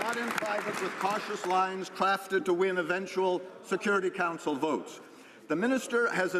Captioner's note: some Applause